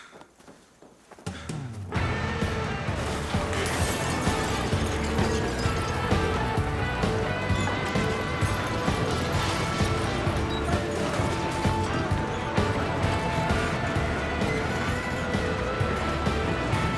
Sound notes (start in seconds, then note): 2.0 energetic rock music; 5.5 glass shattering